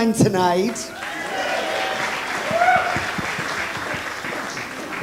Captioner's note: audience applauds